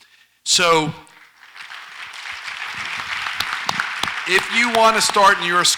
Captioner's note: audience applauds